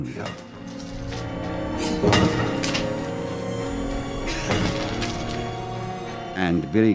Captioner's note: tool pounding; Mago panting